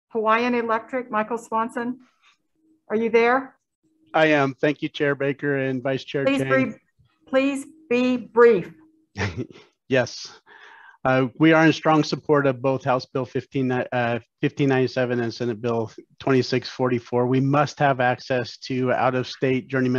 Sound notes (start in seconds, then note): 9.2 chuckles